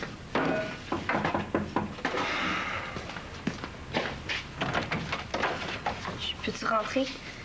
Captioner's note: On frappe à la porte